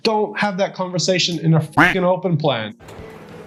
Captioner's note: duck quacking